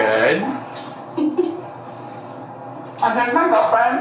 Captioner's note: chuckles